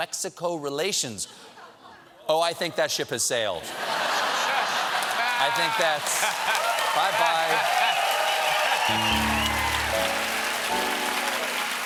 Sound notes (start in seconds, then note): 4.6 cheers and applause; 5.8 laughter; 8.8 piano riff